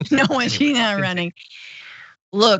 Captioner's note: laugh